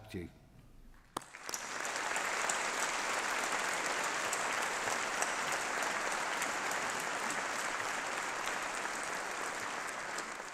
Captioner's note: applause